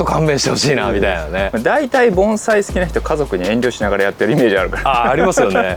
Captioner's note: laughs; laughs